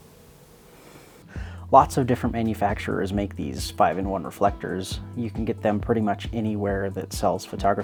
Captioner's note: inhale